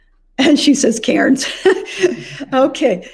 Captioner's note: chuckles